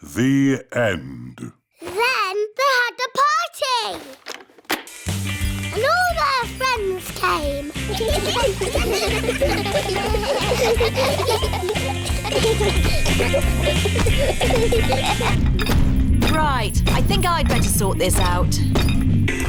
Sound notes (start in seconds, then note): 8.0 giggling; 15.5 feet stamping